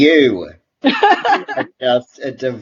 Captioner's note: laughs